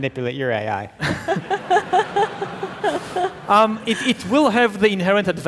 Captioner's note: audience laughing